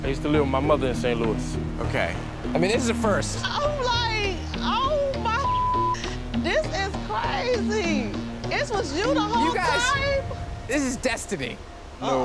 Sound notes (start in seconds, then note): 5.5 beep